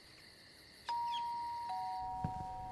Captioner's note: doorbell rings